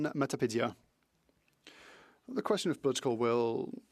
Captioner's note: speaking French